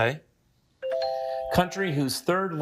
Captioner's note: buzzer chimes